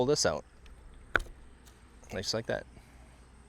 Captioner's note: tire popping sound